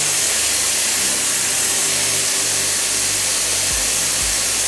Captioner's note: water steaming